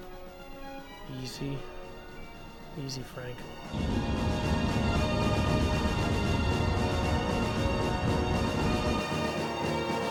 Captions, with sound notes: - Easy. Easy, Frank. (craft rumbling) (intense music)